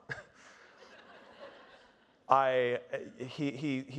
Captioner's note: audience laughing